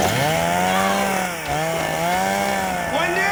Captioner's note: chainsaw running